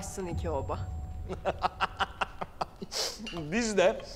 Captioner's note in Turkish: Gülme sesi